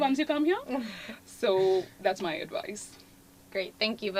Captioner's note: laugh